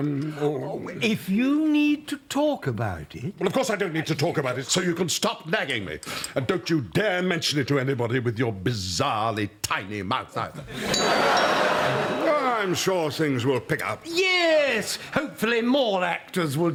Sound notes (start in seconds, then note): 10.9 doorbell tinkles